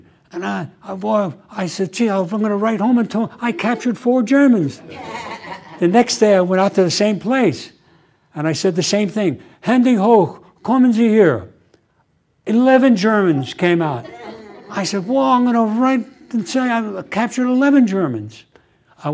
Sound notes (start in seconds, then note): 9.6 german